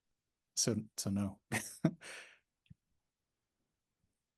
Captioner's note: laughs